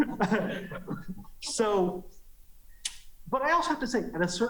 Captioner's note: laughter